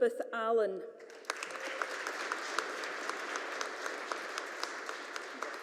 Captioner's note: audience applauding